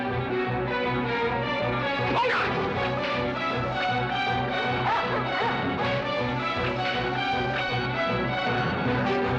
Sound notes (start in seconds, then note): 4.7 barking